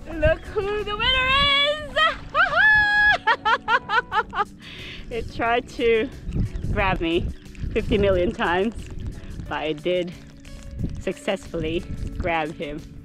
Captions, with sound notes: Look who the winner is! Haha! [Laughter] it tried to grab me 50 million times but I did successfully grab him